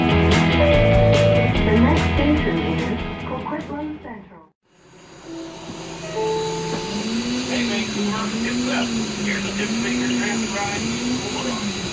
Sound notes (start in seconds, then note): 0.0 intro Music; 5.3 chime